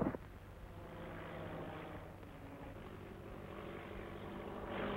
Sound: engine rumbling

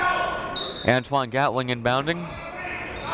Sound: whistle

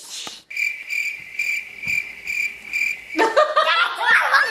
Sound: cricket chirping; laughing

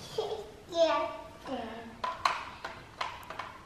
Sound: baby talk

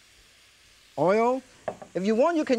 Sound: bottle thuds softly

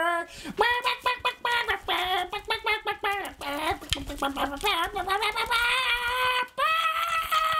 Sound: squawking very loudly

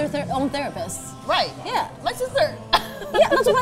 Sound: giggles

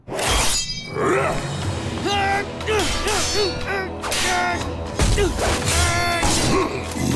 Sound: grunting

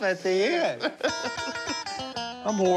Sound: laughs

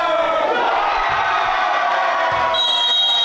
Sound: crowd screams

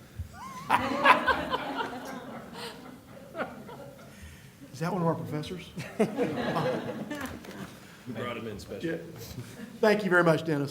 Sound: laughter; laughter

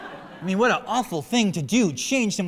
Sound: laughter

